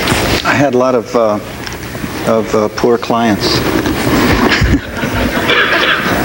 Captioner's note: audience laughs; laughs